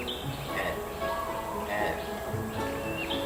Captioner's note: grunting